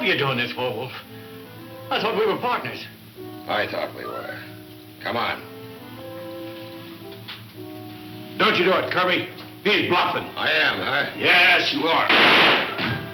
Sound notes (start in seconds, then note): 10.6 gunshot; 12.2 thud; 12.9 dramatic instrumental music